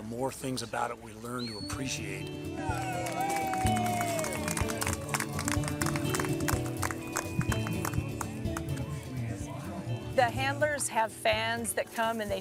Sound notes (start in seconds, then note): 2.7 audience applauds; 7.4 instrumental music